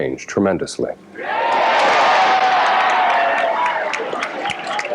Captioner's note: cheers and applause